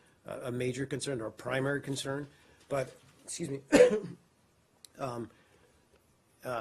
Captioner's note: coughs